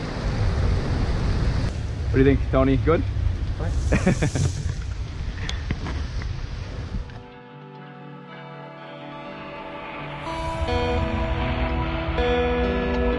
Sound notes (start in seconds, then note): 3.7 laughs; 7.0 relaxing music